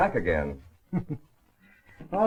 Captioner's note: chuckles